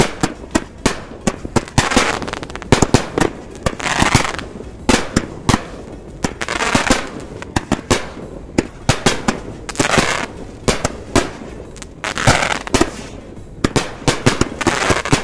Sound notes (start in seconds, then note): 0.1 firework crackling; 0.1 firework popping; 2.3 firework crackling; 2.3 firework popping; 4.5 firework crackling; 4.5 firework popping; 7.1 firework crackling; 7.1 firework popping; 10.5 firework crackling; 10.5 firework popping; 15.0 firework crackling; 15.0 firework popping